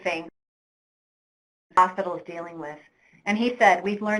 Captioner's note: audio drops out